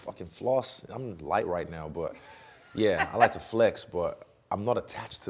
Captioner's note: laughing